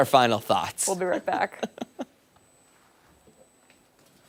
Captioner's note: laughter